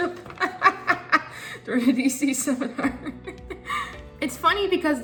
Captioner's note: laughs